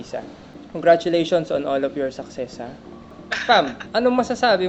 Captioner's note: laughs